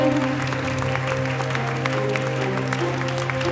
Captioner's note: applause